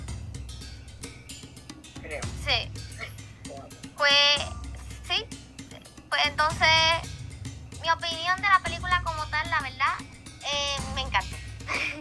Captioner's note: laughs